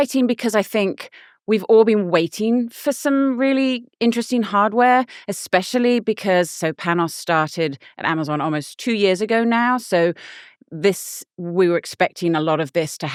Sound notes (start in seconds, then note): none